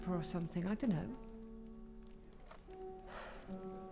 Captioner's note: sighs